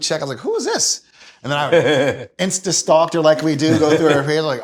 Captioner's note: laughs